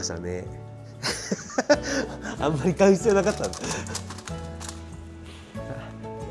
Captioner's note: laughs